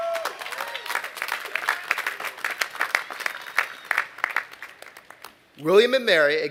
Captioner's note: applause